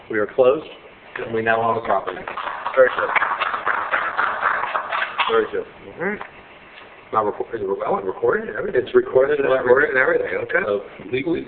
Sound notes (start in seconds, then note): 2.0 applauding